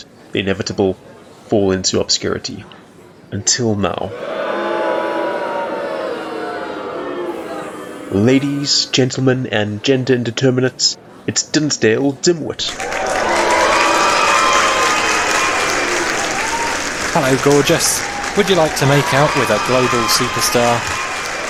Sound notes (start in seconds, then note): 4.0 booing; 12.6 cheering / booing / applause